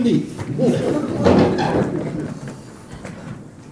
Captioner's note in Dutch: publiek lacht